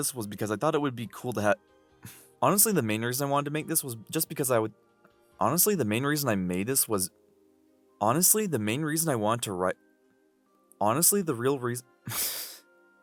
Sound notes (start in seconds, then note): 2.0 exhale; 12.1 exhale